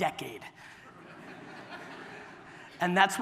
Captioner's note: audience laughter